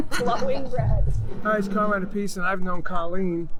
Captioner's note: laughs